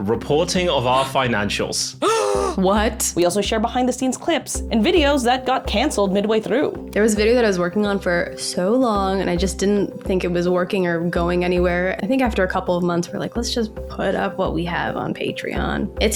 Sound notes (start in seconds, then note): 2.0 gasps